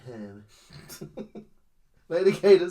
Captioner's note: snorts